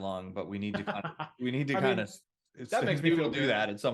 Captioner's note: laughs